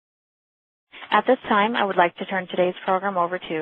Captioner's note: voiceover